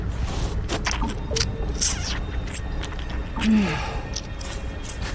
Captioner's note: leech squelching